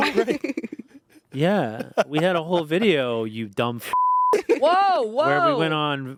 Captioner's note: beep